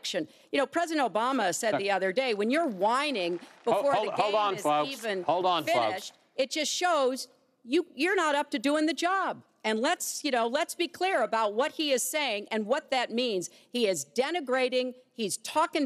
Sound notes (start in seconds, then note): 4.7 applause